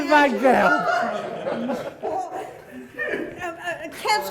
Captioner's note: laughing